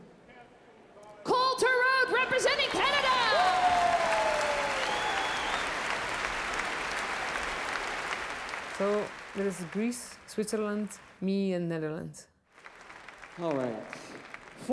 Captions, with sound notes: Cole Torode representing Canada! (cheering) (applause) - So it is Greece, Switzerland, me, and Netherlands. - All right.